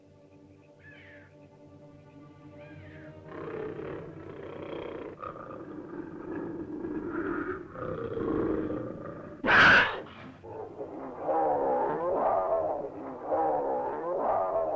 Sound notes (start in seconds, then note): 0.0 ominous music; 0.8 animal squawks; 1.1 ominous music; 3.2 large animal growls; 9.4 animal screeches; 11.2 growling sounds